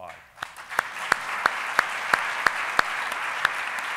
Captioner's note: applauding